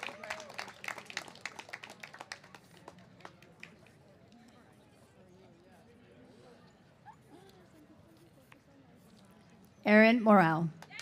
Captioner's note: cheers and applause